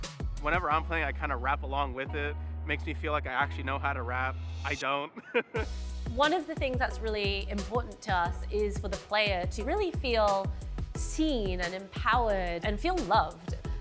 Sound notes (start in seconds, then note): 5.1 laughs